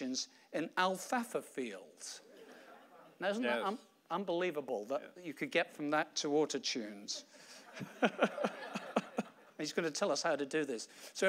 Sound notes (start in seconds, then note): 2.3 audience laughing; 7.6 audience laughing; 7.6 laughing